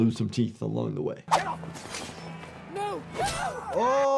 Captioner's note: steel rasping